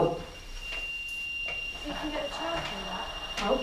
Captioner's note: beeping